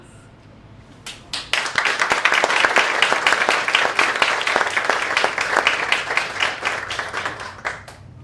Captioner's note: applause